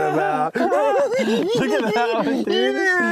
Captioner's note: giggling